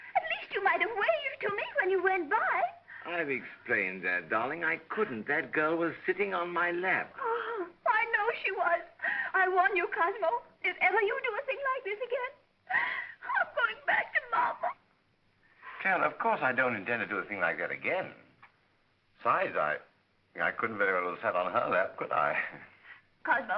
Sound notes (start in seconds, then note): 12.6 sobbing